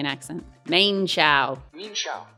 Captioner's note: Australian accent